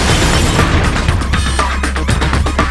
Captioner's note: explosion